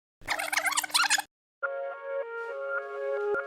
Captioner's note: cassette squealing; light music